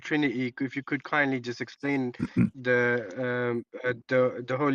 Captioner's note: berdehem